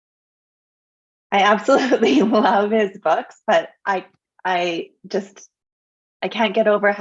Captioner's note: laughs